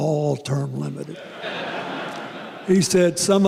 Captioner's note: laughter